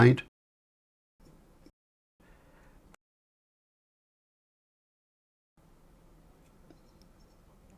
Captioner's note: silence